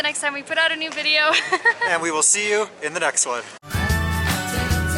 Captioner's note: laughter